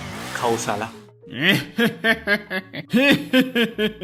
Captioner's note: greedy laugh